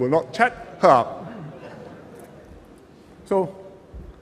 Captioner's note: laughter